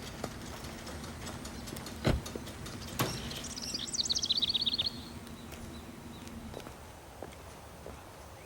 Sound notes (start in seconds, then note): 1.8 birds chirping; 2.0 car door closes